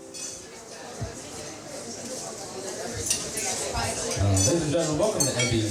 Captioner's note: patrons chattering